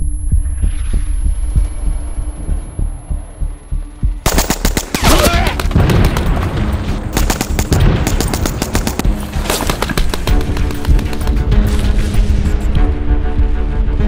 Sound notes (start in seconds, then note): 0.8 missile whistling; 4.2 gunshots booming; 5.0 man yelling